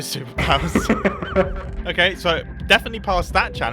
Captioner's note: laughs